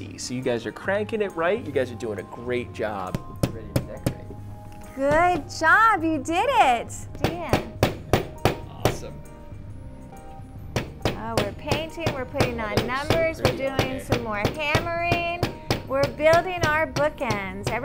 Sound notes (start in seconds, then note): 3.1 hammer tapping; 7.2 hammer tapping